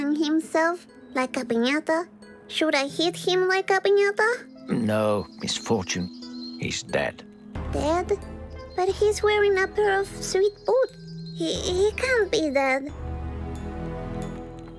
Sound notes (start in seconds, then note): none